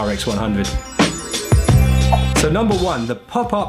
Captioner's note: twinkling